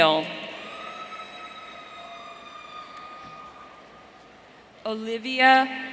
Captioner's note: audience cheering